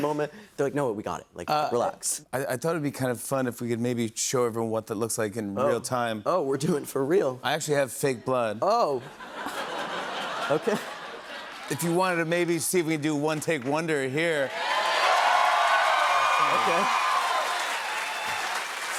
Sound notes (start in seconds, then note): 9.0 laughter; 14.4 cheers and applause